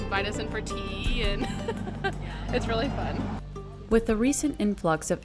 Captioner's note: laughs